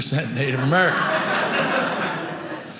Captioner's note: audience laughing